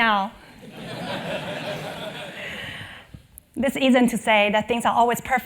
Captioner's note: laugh